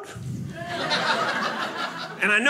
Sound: audience laughing

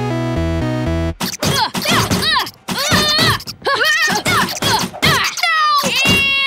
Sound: both groaning

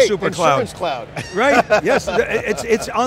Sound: laughs

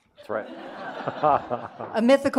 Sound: audience laughing; laughing

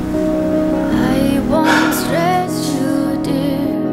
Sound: sighs

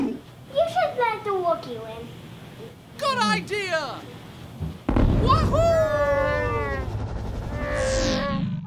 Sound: Chewbacca roar

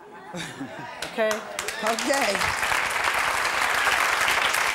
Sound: audience applause

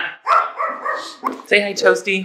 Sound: Toasty barks

